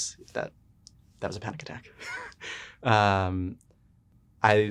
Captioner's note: laughs